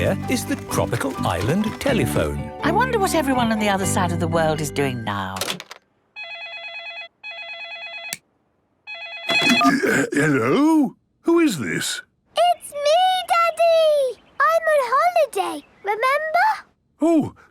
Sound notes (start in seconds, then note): 6.3 phone ringing